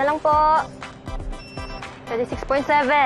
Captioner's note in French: scanner beeps